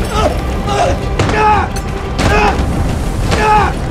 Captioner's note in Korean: 끙끙거리며